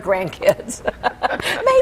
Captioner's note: laughter